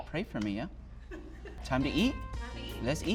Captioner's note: woman laughs